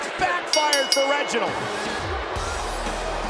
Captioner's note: bell rings; hip hop music